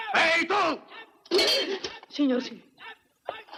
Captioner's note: gasps